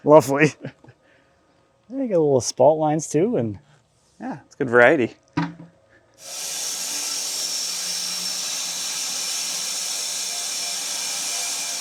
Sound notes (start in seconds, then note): 6.2 saw whirring